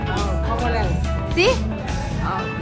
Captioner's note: Spanish